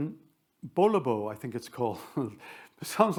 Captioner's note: chuckles